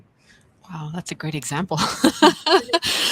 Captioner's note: laughs